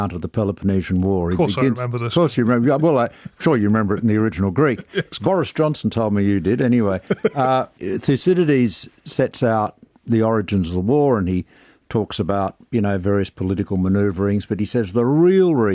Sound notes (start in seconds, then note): 4.6 laughs; 6.9 laughs